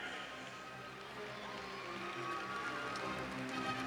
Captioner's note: cheers and applause